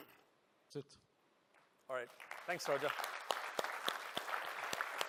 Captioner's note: applause